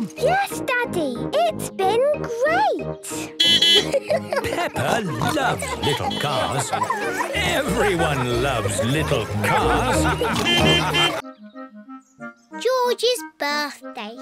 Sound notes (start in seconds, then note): 3.4 beeping and laughing; 9.3 laughter; 10.4 beeping